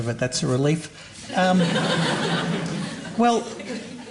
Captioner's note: laughter